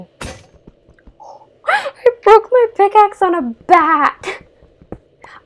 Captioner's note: laugh